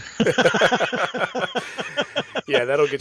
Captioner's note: laughter